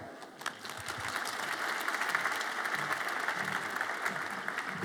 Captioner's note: audience applauds